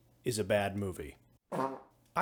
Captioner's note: fart noise